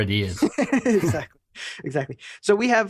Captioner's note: laughs